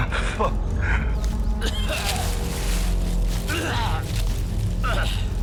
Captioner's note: coughs